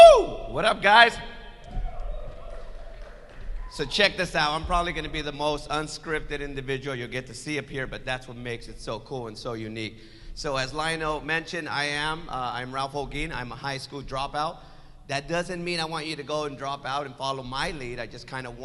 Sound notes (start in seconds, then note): 1.7 audience yells